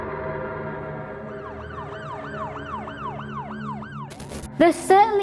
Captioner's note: police sirens wailing